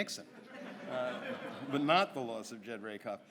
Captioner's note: audience laughs